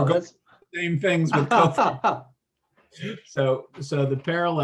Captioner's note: laughs